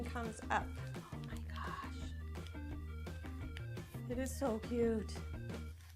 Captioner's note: whisper